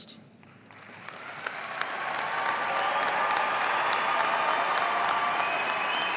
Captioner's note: audience applauding and cheering